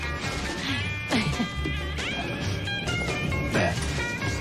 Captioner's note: laughs